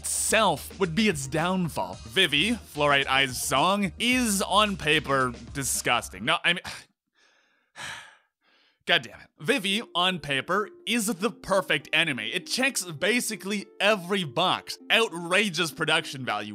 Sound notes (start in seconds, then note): 7.2 sigh